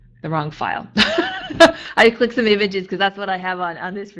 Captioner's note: laughing